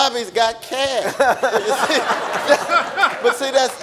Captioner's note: audience laughing